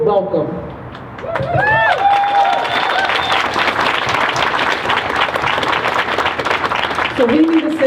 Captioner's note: crowd cheers